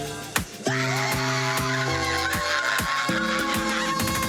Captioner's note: women cheering